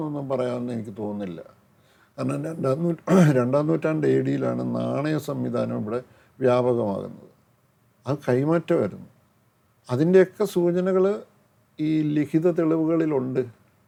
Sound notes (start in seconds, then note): 3.0 clears throat